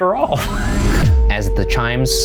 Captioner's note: laughing